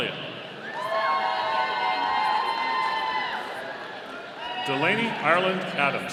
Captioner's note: audience cheering